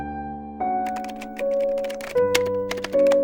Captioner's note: typewriter sound